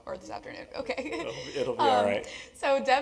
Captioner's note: laugh